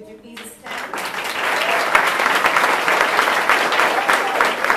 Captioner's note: audience applauding